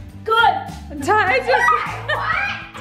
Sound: laughs

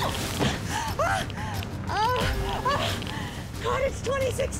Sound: frenzied panting

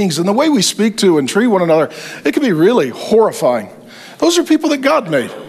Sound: none

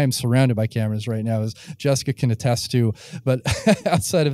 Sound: laughing

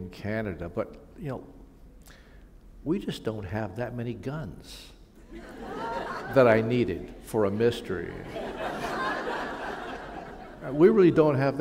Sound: laughter

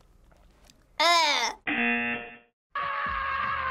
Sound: buzzer; laughs; woman screaming

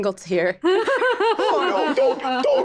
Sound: group laughing

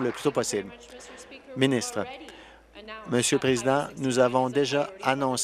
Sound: applause

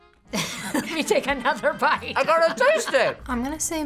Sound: laughs

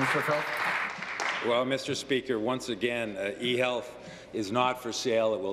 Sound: applause

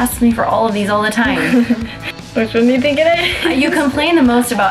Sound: laughs

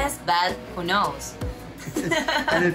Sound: laughs

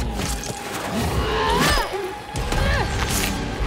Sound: Enkara screams

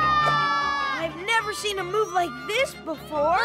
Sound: cheering

